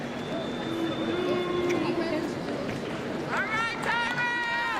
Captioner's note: crowd cheering